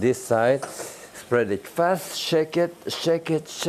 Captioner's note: pan sizzling